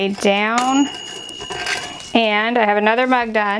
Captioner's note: oven dinging